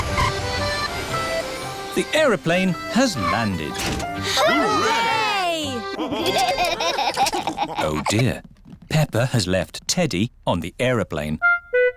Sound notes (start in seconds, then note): 5.9 laughter